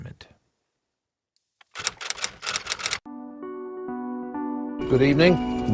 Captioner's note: typewriter keys clicking